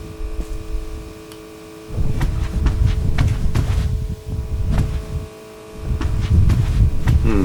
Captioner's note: footsteps